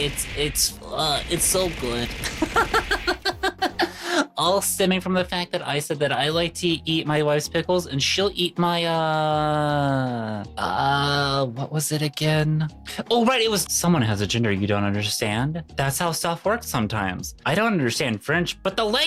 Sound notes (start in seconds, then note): 2.3 laughs